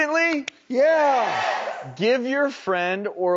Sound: audience shouts

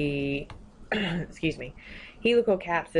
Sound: clears throat

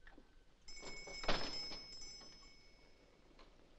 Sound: door chimes jingle & door shuts

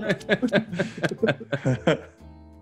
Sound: laugh

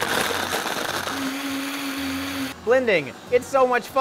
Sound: blender running

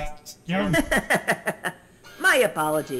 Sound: Dant laughs

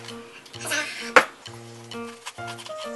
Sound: whispered

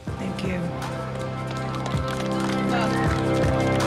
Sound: clapping

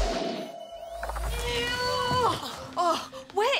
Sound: both groan

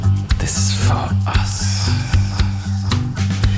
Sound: wild Echoing

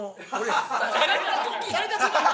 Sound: laughs

